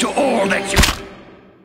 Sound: chomp

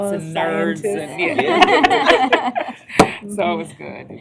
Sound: laughter

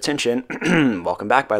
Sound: clears throat

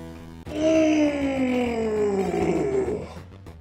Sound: grunting celebration

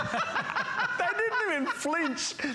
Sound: laughter

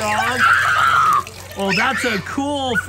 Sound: screaming

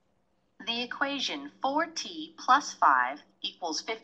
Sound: computer voiceover

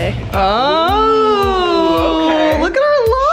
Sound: both yelling

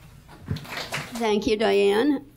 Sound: audience applauds

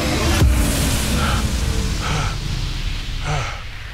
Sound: electronic boom

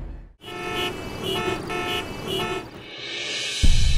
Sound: horn honking

